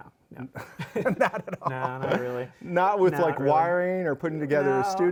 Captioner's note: both laughing